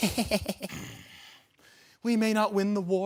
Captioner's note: soft grunting